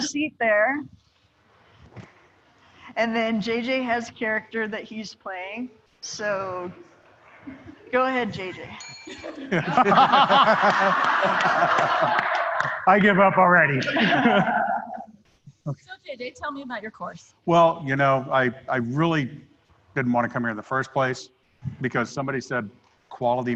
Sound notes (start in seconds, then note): 8.7 ringing bell